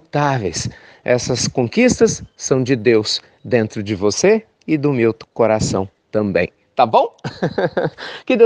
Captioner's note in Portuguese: risos